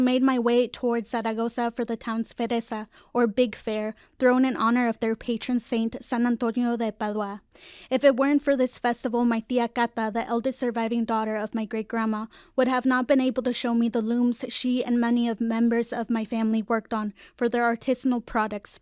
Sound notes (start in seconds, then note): none